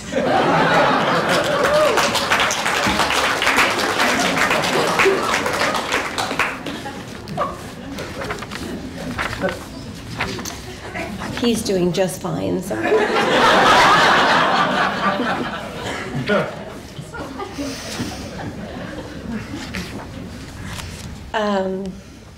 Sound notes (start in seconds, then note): 0.0 laughter, applause; 12.7 laughter